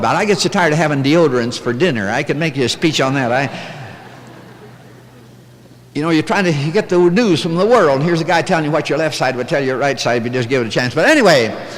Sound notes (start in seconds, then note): 3.2 light laughter